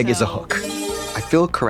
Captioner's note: bright chime